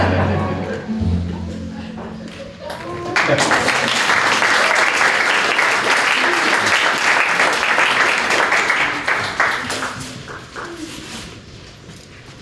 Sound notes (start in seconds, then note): 2.7 applause